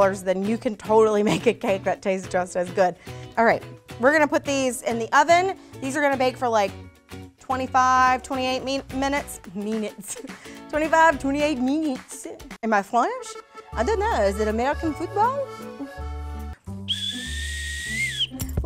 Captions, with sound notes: you can totally make a cake that tastes just as good. Alright, we're gonna put these in the oven. These are gonna bake for like, 25/28 min-Minutes. Minouittes. 25 to 28 minouittes. (accented) Am I French? I don't know, is it American football? (weak whistle blow)